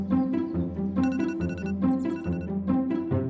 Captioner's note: alarm goes off